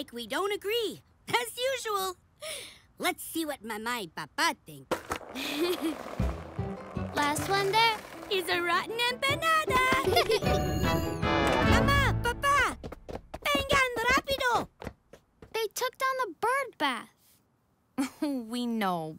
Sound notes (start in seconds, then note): 5.3 laughs; 10.0 laughter